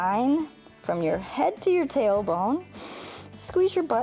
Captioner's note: inhales